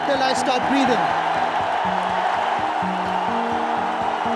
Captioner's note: cheering